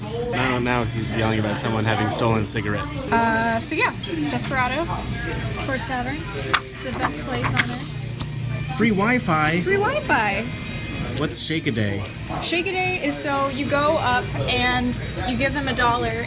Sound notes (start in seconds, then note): 9.1 excitedly; 10.0 joyfully